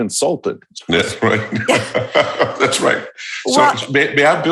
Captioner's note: chuckle